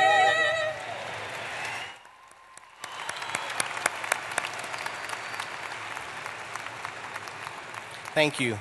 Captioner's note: applause